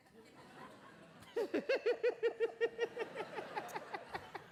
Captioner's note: both laughing